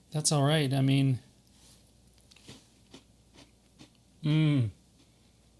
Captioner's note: crunching